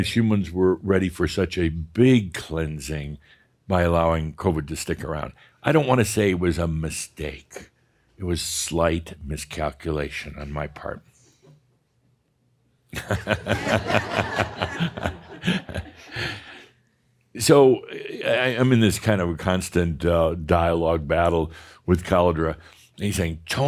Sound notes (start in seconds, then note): 13.0 chuckles and more chuckles in audience